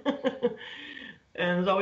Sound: laughter

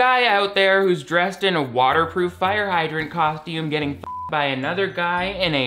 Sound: beep

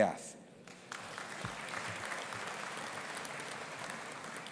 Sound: audience applauding

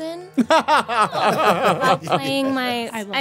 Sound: group laughing

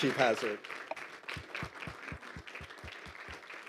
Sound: all applaud

